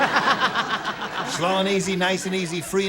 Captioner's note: laughter